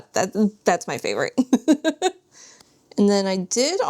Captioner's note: laughs